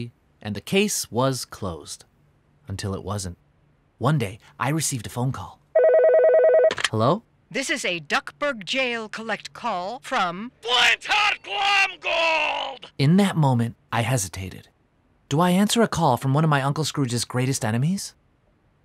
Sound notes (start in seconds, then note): 5.7 phone rings